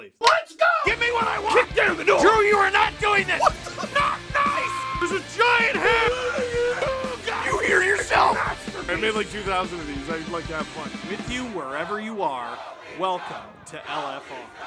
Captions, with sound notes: LET’S GO - Give me what I want! - Kick down the door! - Drew you are NOT DOING THIS - what the - NOT NICE - *screaming* - there’s a giant hair! - *Harry potter screaming* - Do you hear yourself? - MASTERPIECE - I’ve made like 2 000 of these. I like to have fun - With you wherever you are, welcome to LFR